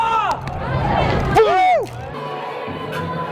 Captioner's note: chest thumping